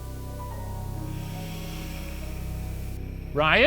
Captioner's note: air hissing